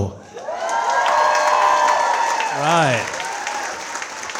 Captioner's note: audience cheering and clapping